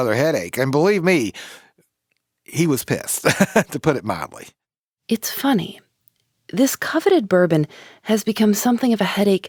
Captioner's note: laughs